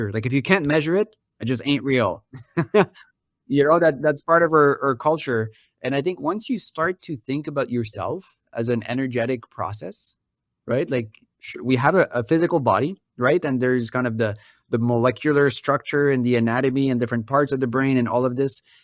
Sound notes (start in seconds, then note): 2.4 laughs